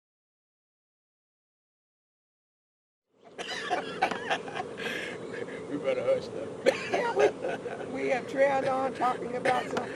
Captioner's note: laughter